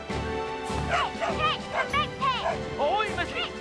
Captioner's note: Patch barking